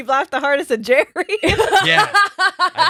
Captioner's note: laughing